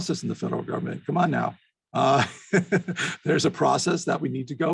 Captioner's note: laughs